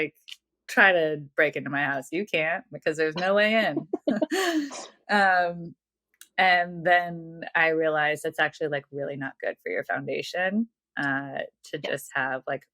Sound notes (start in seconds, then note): 3.2 <Laugh>